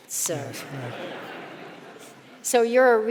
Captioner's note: audience laughing